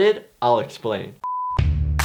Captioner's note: beep; upbeat music